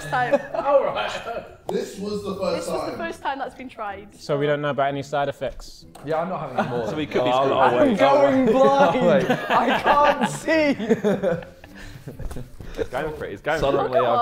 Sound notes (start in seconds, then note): 9.2 Sidemen laughing